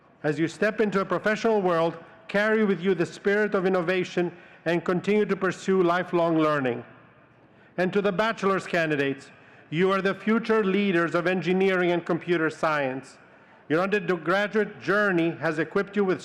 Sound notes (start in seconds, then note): none